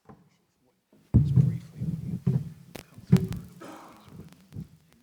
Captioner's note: murmuring